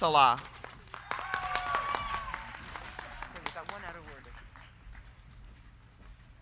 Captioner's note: crowd clapping; crowd cheering